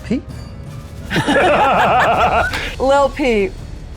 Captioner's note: group laughs